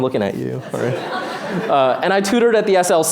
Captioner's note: laughter